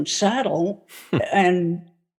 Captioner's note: chuckling